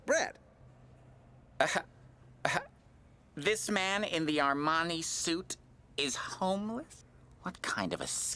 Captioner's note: laughs